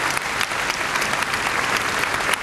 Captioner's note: applause